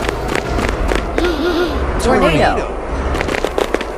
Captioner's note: footsteps; three pigeons gasp; footsteps